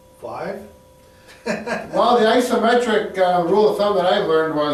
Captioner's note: laughs